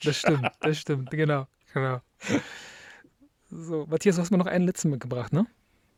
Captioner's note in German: japst